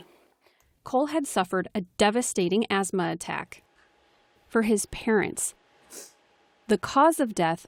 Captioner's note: voice-over